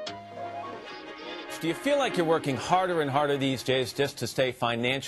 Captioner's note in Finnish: radio